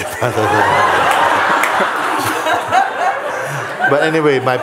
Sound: laughter

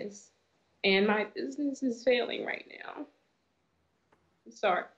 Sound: voice breaking

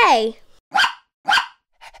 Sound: bark

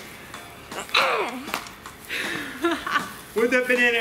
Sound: grunting

